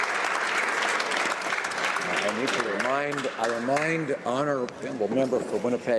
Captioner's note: some Applause